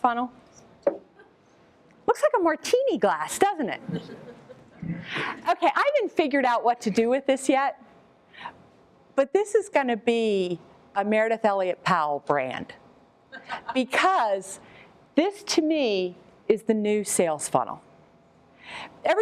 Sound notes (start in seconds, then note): 13.3 laughter